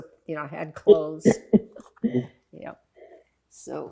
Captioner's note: laughing